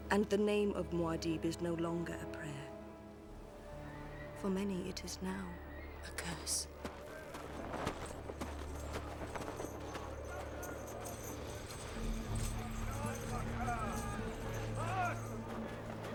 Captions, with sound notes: And the name of Muad'Dib is no longer a prayer. For many it is now a curse. [ Men Chattering In Distance ]